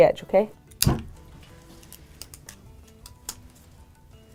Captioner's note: tape cutting